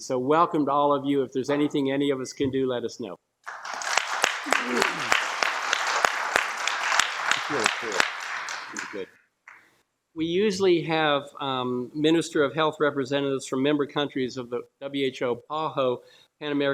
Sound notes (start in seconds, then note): 3.4 applause